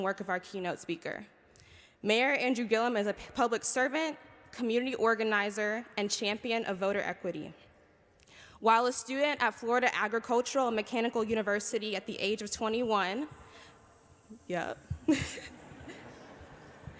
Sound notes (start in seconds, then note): 15.0 chuckling